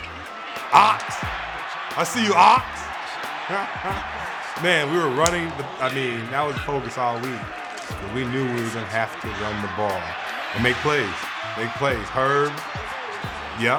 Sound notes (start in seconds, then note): 3.4 chuckling